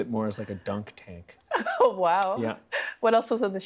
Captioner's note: laughing